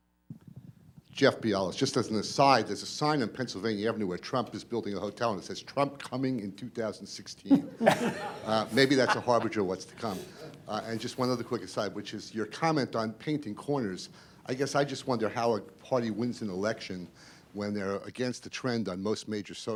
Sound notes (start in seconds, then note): 7.5 laughter